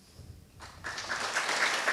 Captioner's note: applause